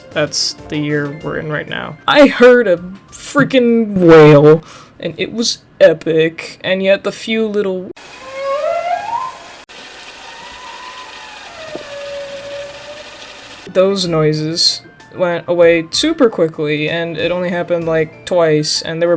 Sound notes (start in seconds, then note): 8.0 whale "moaning"